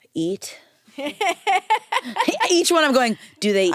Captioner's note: laughs